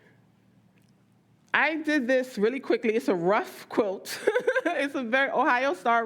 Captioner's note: laughs